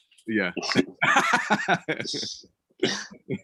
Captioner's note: laughing